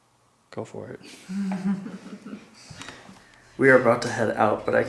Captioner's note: giggling